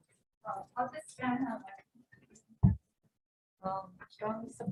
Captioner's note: woman continues speaking